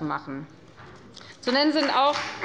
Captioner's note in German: Beifall bei der FDP